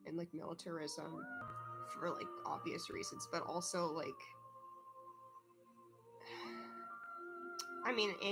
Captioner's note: exhales